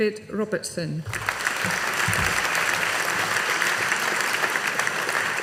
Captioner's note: audience applauding